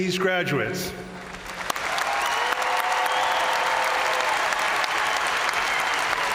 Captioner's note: crowd applauding; crowd cheering